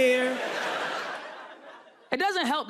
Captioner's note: audience laughing